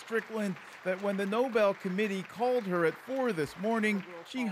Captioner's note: applause